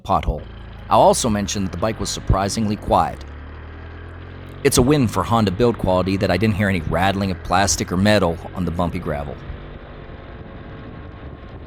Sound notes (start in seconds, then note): 3.8 engine Sounds